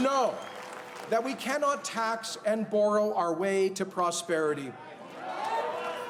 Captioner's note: cheers and Applause